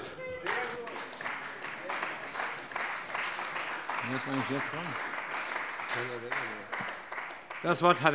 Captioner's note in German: Beifall bei der CDU